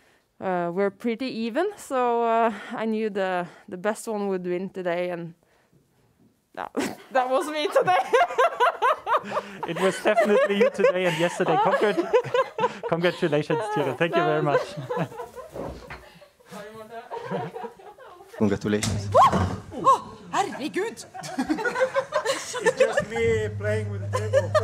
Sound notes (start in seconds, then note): 9.0 laughs; 12.5 Tiril laughs; 20.4 laughter